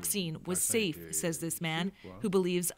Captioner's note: speaking Foreign Language